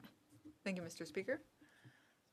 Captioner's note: speaking French